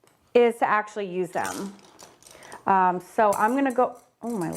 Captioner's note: brushes tinkling; brushes tinkling in glass